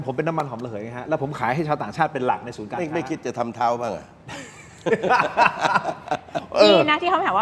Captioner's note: laughs